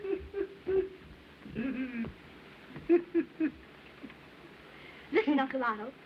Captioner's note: chuckling; chuckling Continues